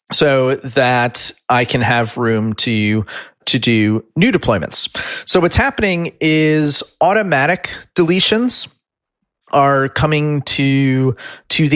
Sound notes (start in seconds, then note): none